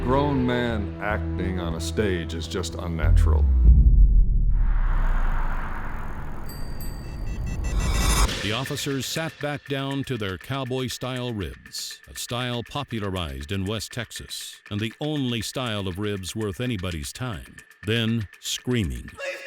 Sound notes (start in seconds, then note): 6.4 bell ringing